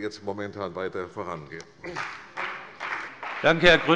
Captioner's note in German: Beifall bei der CDU und dem BÜNDNIS 90/DIE GRÜNEN